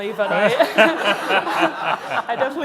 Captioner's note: laughing